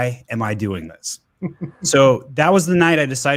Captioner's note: laughs